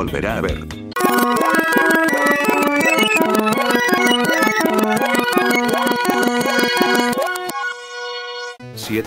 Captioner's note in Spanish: Sonido de robobinado